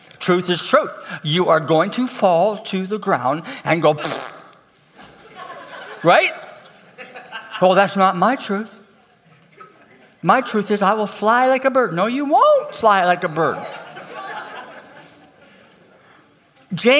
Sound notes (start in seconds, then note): 4.0 makes raspberry